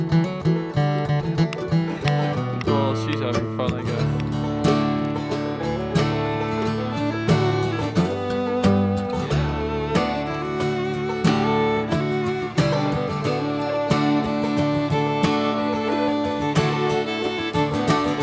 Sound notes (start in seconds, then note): 0.0 happy Country Music; 0.0 soft background chatter; 4.7 happy Country Music; 5.2 soft background chatter